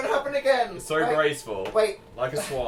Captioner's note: sarcastically